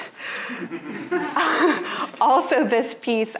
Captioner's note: audience laughing